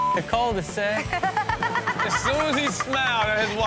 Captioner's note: audience laughs; laughs